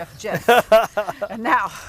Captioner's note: laughs